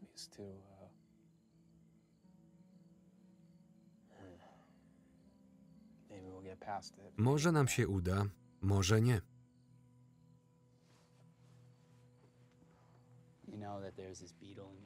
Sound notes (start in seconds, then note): 0.5 crickets chirping; 4.2 Ben sighs; 8.2 crickets chirping; 8.2 gentle music